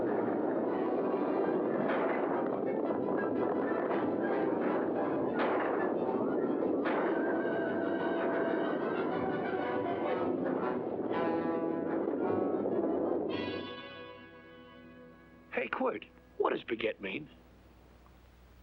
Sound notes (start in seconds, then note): 0.1 dramatic music; 1.6 hooves pounding; 5.2 dramatic music; 5.3 gunfire; 6.8 hooves pounding; 7.4 dramatic music